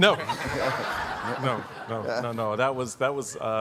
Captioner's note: audience laughing